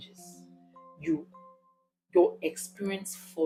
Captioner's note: paause